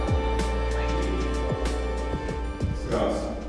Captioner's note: voiceover